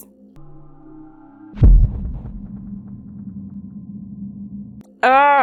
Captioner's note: thud